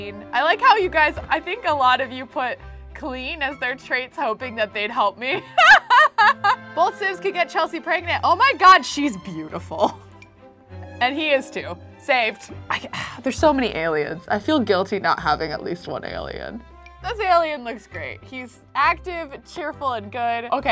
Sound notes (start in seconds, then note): 5.4 laughs